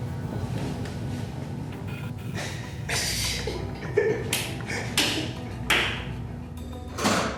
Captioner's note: laughter